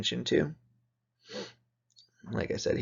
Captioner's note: sniffs